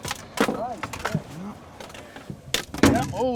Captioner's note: clattering